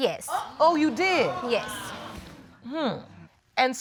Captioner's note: audience exclaiming